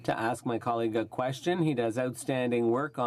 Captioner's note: speaking French